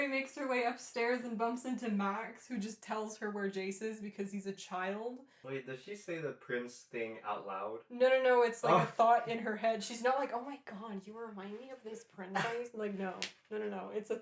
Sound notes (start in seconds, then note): 8.6 laughing